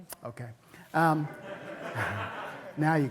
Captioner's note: laughter